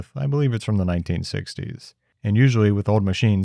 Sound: none

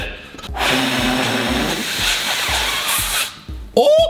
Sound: blows

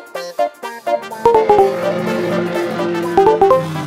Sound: car engine revving

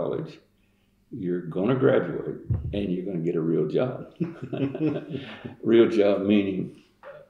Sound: laughter

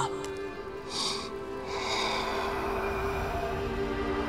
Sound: sighing

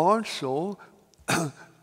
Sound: coughs

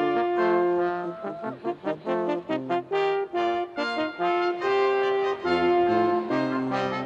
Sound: students cheering

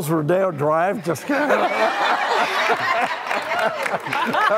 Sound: audience laughs

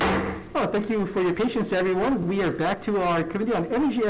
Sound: gavel bangs

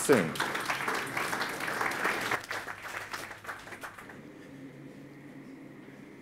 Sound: audience claps

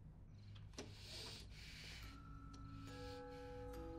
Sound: breathing heavily

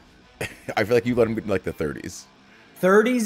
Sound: laugh

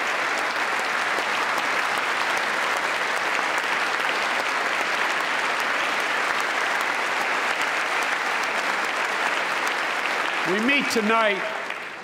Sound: applause

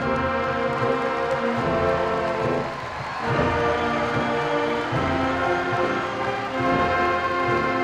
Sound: applause

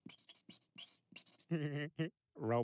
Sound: chuckles

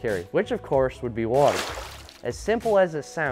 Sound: water splashes

